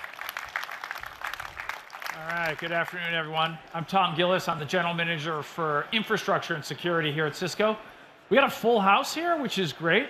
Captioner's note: applause